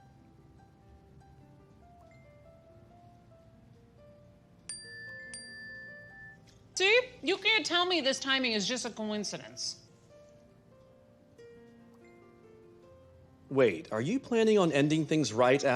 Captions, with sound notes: [ Chimes ] See?! ! You can't tell me this timing is just a coincidence. -Wait, are you planning on ending thingsgs right after the holiday party?